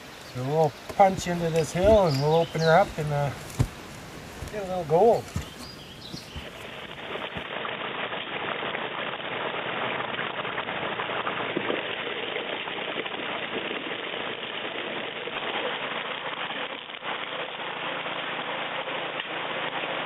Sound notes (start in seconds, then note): 5.8 foot steps; 7.9 rushing water